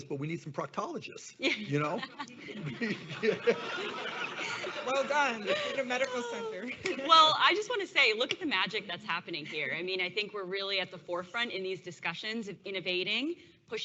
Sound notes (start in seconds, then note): 1.4 laughs; 3.3 audience laughs